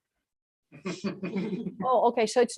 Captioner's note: laughter